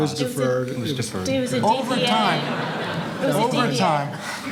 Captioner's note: audience laughs